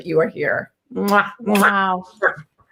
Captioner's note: loud kissing